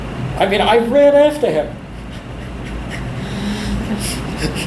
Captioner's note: laughs